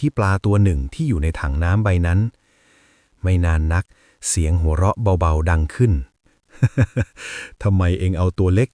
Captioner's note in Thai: เสียงหัวเราะ